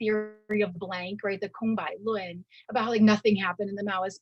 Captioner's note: speaking in Mandarin